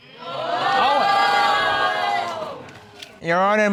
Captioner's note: all exclaim